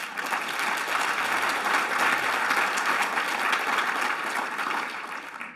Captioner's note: applause